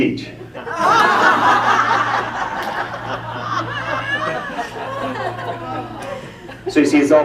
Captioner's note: laughter